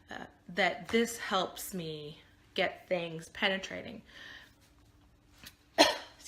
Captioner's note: coughing